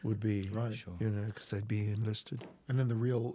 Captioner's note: door Opens